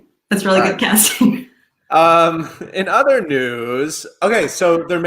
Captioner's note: both chuckles